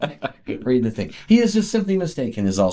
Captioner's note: laughs